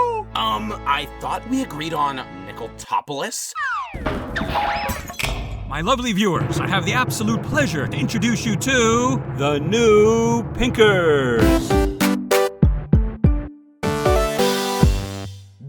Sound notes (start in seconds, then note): 3.9 hilariously comedic shuffling noises